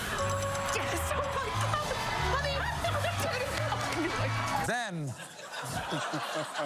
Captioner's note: ding, ding, ding